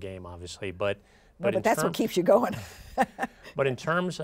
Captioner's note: chuckles